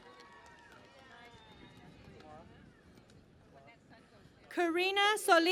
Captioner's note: cheering and Applause